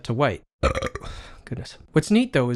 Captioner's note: braaaaaap